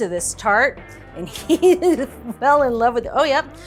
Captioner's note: laughs